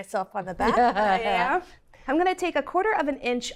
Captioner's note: both laughs